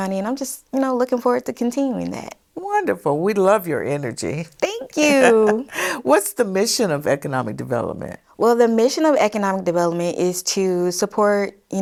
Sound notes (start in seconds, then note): 4.6 laughs